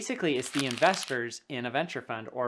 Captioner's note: paper rubbing